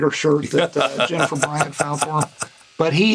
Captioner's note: Gould laughing